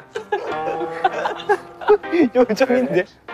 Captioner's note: unable to hold the laughter